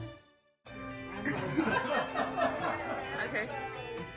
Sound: group laughing

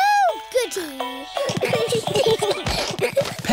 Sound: all giggling

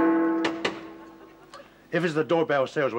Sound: knocking at door

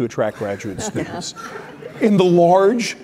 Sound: laughter

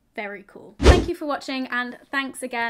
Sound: swooshing

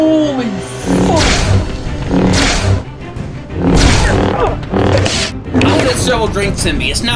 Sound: intense lightsaber dueling

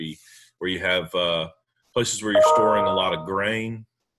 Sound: ping

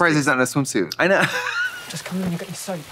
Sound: fizzling

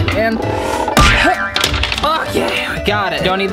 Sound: grunting

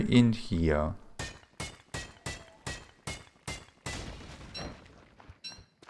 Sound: repeated mining, rock crumbling

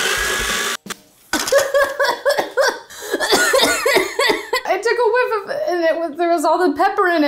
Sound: mixer whirring; coughing

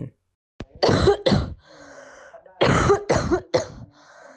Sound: coughing with breaths in between

